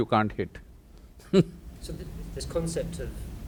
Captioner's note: laughs